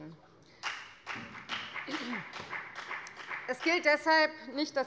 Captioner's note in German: Beifall bei der FDP